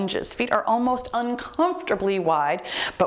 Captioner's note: timer beeps